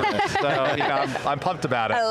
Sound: laughing

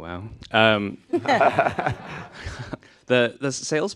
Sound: laughter

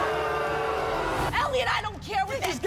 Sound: audience boos

